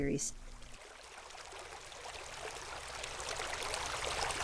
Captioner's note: water bubbling